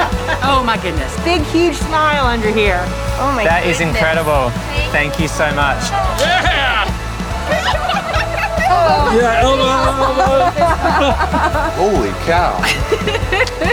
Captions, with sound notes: - Oh my goodness. - Big huge smile under here. - That is incredible. Thank you so much. - Yeah. (group laughs) - Elbow, elbow. - Holy cow.